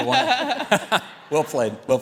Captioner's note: chuckles